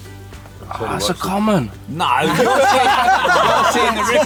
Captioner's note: laughter